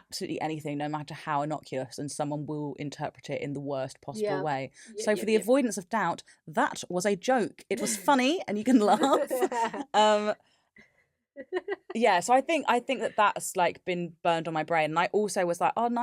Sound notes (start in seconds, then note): 9.0 laughs; 11.4 laughs